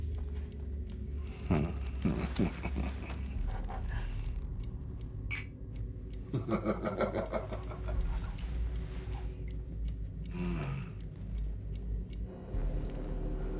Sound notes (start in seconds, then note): 1.2 wicked chuckles; 5.3 glasses clink, laughs